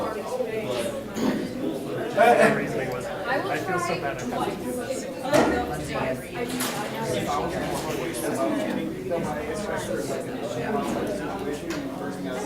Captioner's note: talking amongst audience